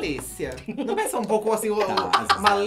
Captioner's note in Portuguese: Blogueirinha ri